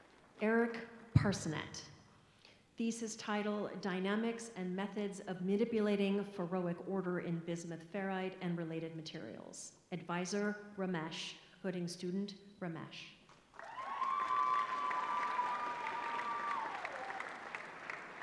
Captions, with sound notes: Eric Parsonnet, thesis title-- dynamics and methods of manipulating ferroic order in bismuth ferrite and related materials. Advisor-- Ramesh. Hooding student-- Ramesh. [APPLAUSE]